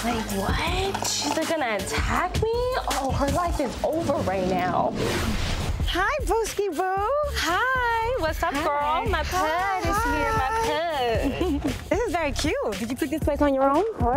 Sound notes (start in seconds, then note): 4.0 logo whooshing